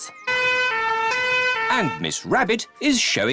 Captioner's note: bleats; siren blaring